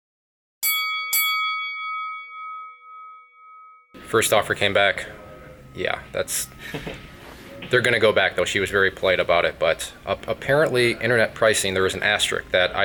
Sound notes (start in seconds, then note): 0.6 boxing bell rings; 6.5 laughs